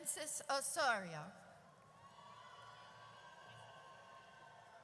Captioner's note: audience cheers